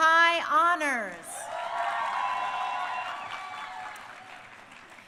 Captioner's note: crowd cheering